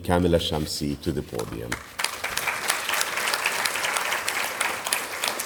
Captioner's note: audience applauding